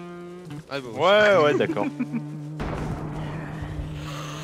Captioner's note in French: rire